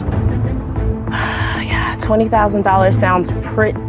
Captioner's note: exhales